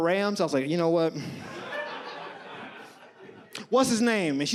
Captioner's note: audience laughs